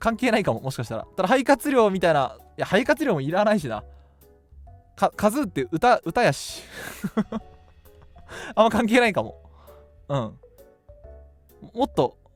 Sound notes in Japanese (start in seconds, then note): 7.2 笑い